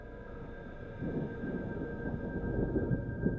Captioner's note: thunder rumbling